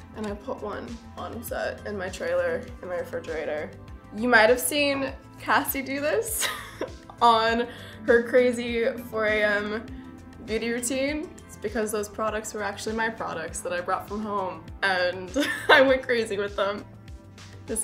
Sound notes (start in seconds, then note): 6.6 laughs